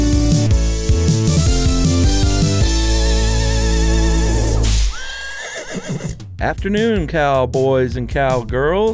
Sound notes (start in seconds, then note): 4.8 horse whinnies